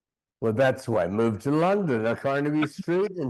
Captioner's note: chuckling